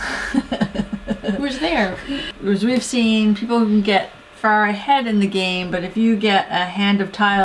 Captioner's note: laugh